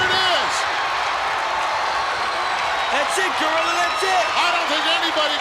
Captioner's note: applause